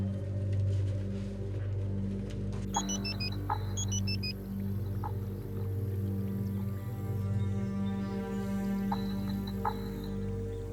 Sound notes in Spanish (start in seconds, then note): 3.8 Suena el celular